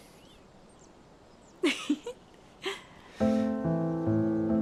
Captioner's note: small laugh